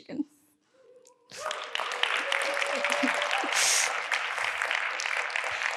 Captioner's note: audience applauding